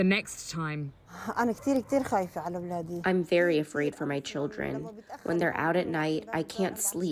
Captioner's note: through translator